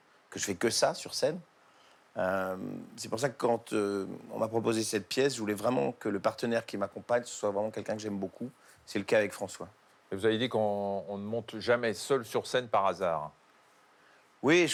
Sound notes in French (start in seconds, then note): none